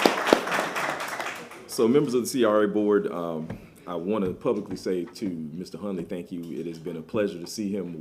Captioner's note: applause